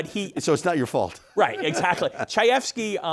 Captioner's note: chuckles